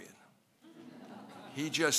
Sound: laughing

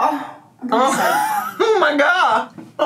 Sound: laughs

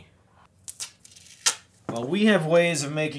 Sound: tape rips

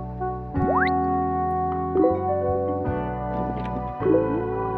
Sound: notification sounds

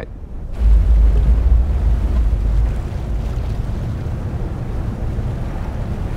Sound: wind blowing; water sloshing

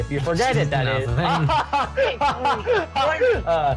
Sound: evil laugh?

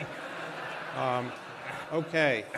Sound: laughter

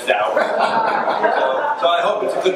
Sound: crowd laughs

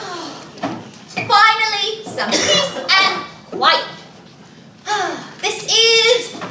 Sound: sighs

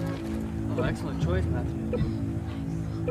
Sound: tracking sound

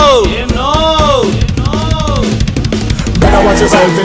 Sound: echoes

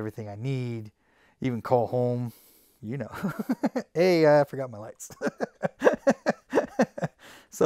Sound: laughs

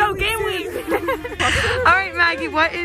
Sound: laughs

